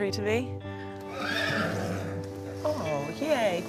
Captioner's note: horse whinnies